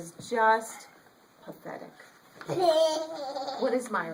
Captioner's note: children laugh in background